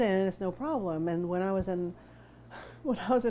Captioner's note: deep breath